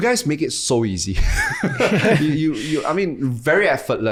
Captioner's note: guys laugh